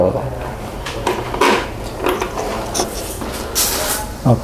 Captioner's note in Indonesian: suara obeng